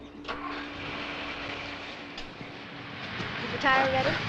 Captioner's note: car engine rumbling